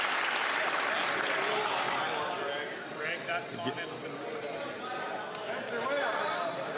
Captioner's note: some Applause